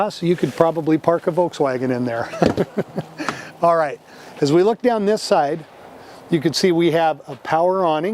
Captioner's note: laughs